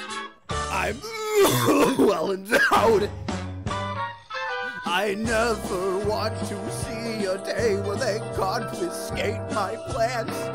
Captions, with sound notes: I'm... *Violent Coughing* Well end *Short Cough* owed I never want to see a day Where they confiscate my plants!